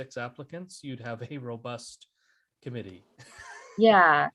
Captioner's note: chuckles